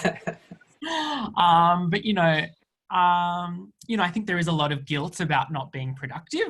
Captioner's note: laughs